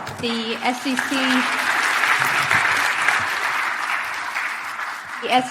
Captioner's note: audience applauding